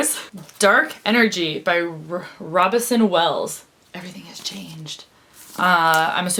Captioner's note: whispers